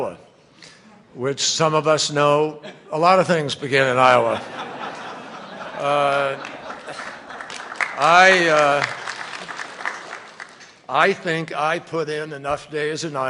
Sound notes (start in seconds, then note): 4.2 laughter and applause